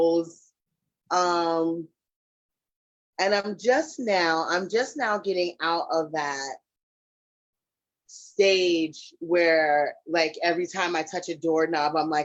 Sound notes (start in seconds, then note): none